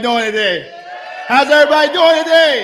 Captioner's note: cheering